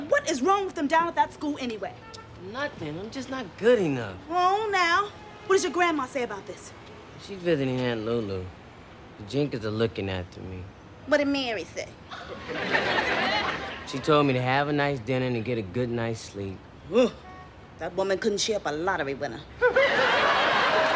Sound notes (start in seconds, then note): 16.7 scoffs